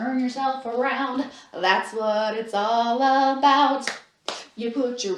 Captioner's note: clap, clap